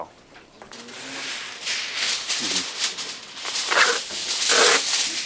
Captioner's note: tinfoil reverberating